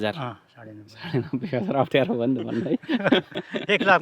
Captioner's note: laughter